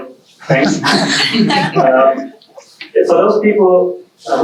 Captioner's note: audience laughing